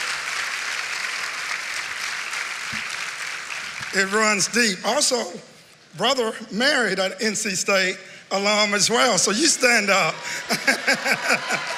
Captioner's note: cheering and applause